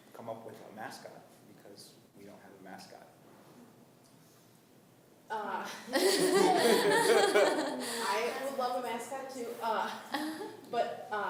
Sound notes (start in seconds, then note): 5.9 laughing